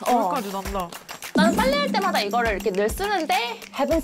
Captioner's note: forgot that it's her first time doing laundry again sound effect